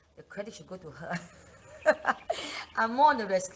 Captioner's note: laugh